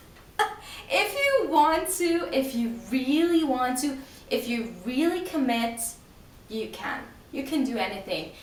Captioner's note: laughs